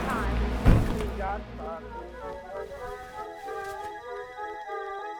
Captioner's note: gunshot blasts; body thuds; jaunty music